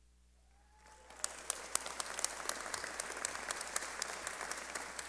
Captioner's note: clapping